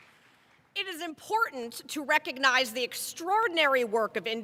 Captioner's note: applause